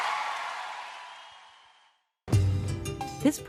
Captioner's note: loud applause & cheers